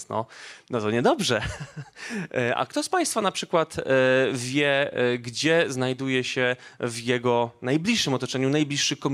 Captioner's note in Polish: śmiech